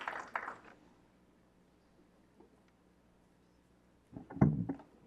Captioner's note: clapping